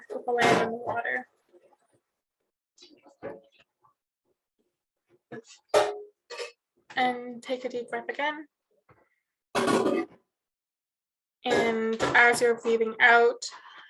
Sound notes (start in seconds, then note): 2.5 metal banging; 6.1 metal clanging; 9.6 metal banging